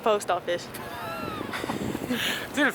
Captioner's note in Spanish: risas varias porque no tengo ni idea